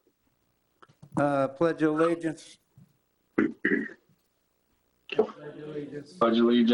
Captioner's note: clears throat